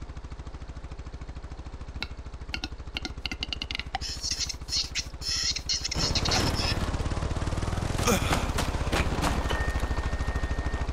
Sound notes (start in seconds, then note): 3.0 a few more ring-necked pheasant noises; 8.0 death sounds